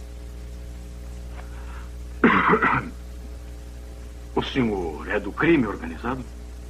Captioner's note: coughs